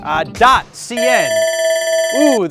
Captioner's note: alarm trills